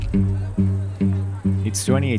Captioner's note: upbeat music; people chattering